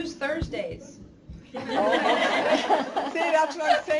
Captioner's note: laughter